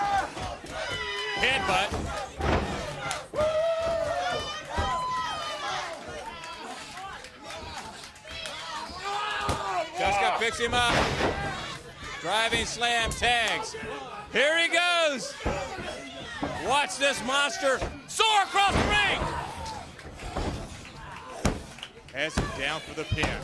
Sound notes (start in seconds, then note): 0.0 crowd cheering; 3.0 crowd chatter